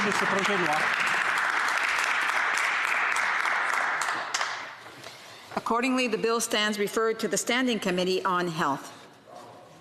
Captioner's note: applause